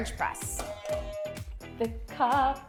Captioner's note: buzzer